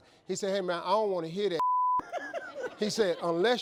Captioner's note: beeping